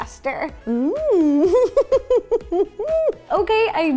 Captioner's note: laughter